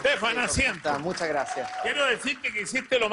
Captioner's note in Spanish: aplausos